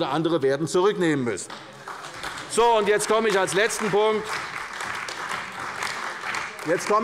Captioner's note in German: Beifall bei der CDU und dem BÜNDNIS 90/DIE GRÜNEN